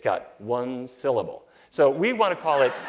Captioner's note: laughter